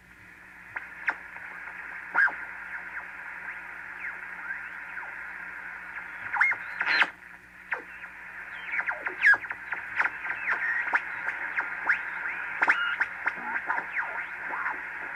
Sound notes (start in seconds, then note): 0.7 receiving radio signals